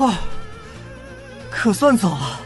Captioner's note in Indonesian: Menghela napas